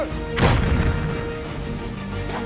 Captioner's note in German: Kanonenschuss